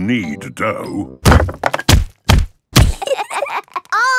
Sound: banging

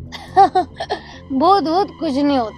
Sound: laughing

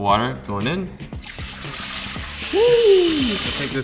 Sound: water pouring

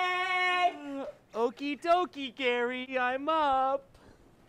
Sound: yawns

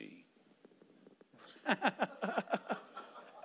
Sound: laughing

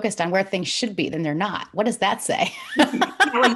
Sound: laughs

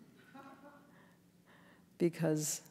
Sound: audience giggling

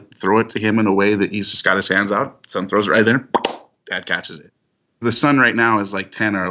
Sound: catching noise

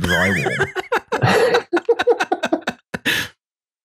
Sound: laughter

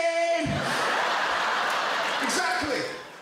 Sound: crowd laughter

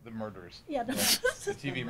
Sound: laughs

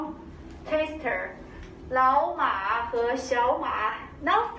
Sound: speaking Mandarin

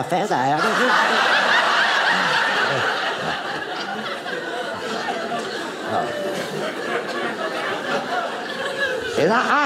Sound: audience laughing

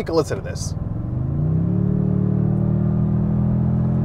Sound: engine running

